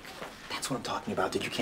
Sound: none

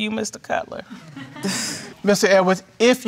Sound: audience laughing

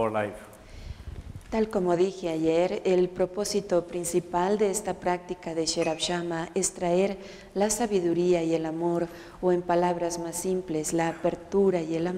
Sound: Spanish

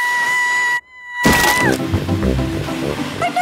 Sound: screaming

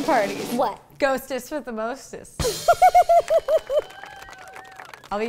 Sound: laughs

